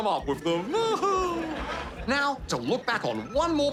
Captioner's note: laughter